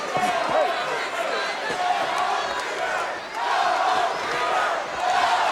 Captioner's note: audience chanting